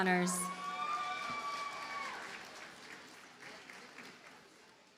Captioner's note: audience cheers and applauds